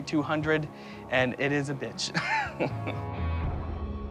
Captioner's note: laughs